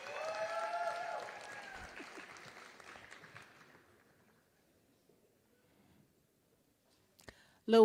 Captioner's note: applause